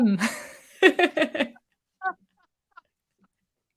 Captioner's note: laughter